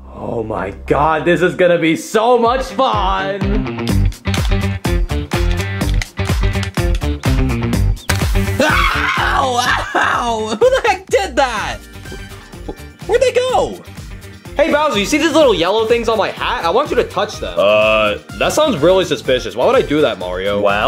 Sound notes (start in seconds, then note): 3.2 upbeat music; 8.5 Junior screams